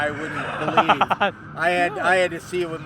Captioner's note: laugher